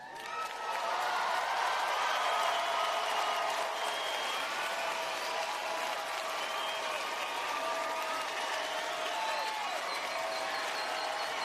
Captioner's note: applause